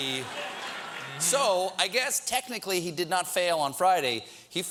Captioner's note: laughter